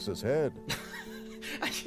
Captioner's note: laughing disgustedly